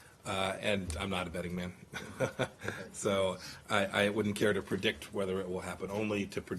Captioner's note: laughter